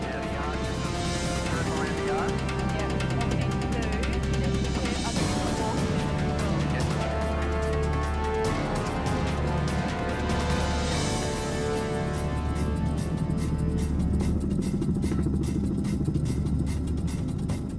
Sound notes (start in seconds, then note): 5.3 adventure music; 11.9 strong blasts of air